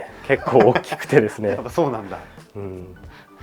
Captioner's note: laughs